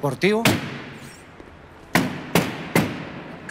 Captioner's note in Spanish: Golpes